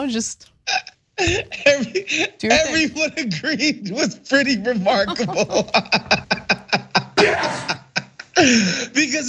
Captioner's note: laugh